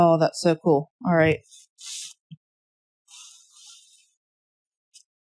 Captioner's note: drawing noises